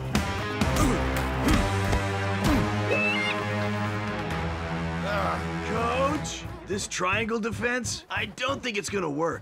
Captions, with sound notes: (squawking) - Ugh! - Coach? This triangle defense? I don't think it's going to work.